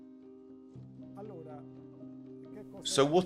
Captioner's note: speaking in foreign language